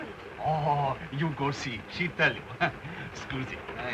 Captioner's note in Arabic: تضحك